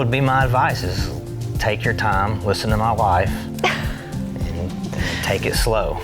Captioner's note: laughing